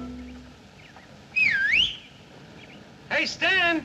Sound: whistling from off screen

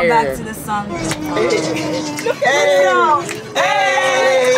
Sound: group laughing and chattering

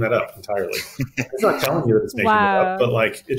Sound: laughing

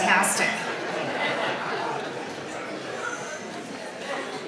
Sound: audience laughs

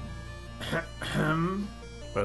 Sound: clears his throat

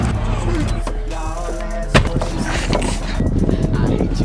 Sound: door shuts

